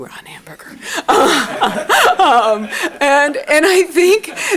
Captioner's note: laughter